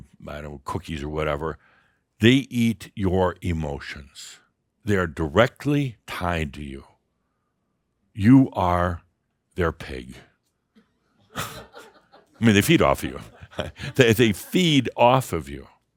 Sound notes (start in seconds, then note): 11.3 a few chuckles; 14.3 Adamus chuckles